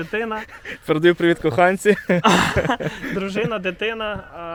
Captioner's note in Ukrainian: Сміються